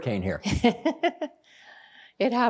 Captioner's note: laughing